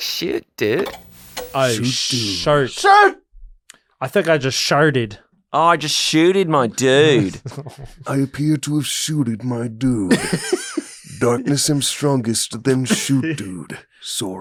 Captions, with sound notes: Shoot dude. - All right, sorry, I think I just shated. - Oh, just shooted my dood. - I appear to have shooted my dood. (laughter) Don't miss them strongest to them shoot dood, Sora.